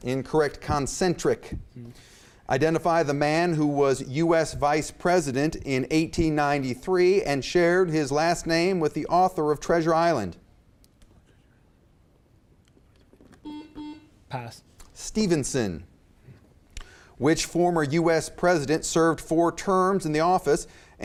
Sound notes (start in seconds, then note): 10.9 contestants whispering; 13.4 beep